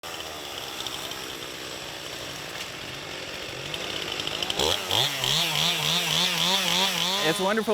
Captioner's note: chainsaw noise